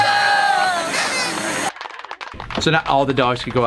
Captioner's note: noisemaker sound